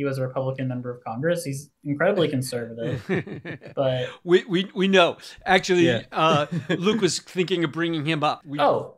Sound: laughs

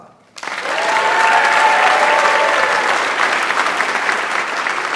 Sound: audience applauds

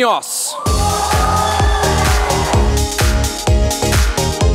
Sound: applause and music

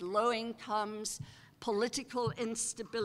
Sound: none

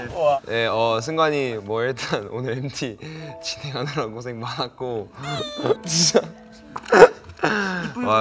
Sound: sobbing

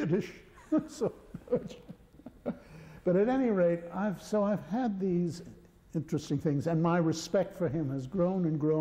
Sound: laughter

